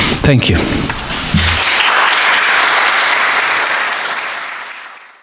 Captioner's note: audience clapping